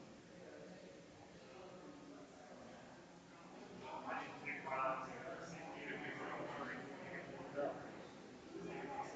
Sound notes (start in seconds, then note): 3.8 people chattering distantly continues